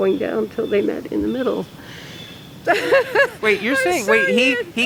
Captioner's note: laughing